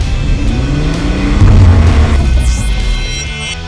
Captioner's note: engine revving